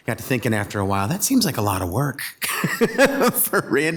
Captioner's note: laughs